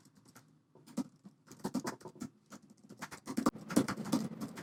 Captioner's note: typing